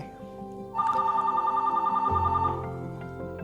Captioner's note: phone Rings